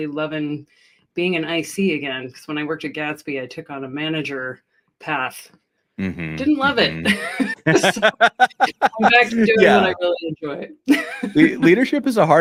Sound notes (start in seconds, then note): 6.3 laughter